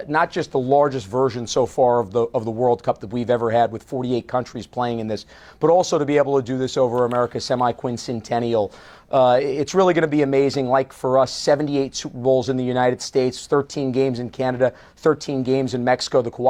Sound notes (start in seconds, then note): none